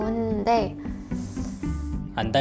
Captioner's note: sigh